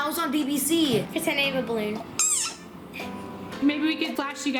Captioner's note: squeaking